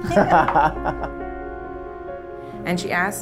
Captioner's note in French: rires